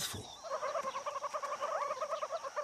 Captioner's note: all chattering and squeaking